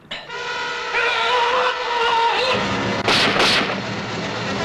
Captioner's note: screaming - gunshots